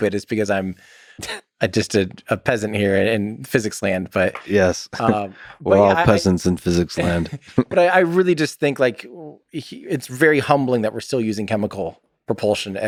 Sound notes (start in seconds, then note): 6.7 Lex laughs